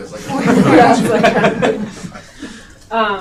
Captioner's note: audience laughing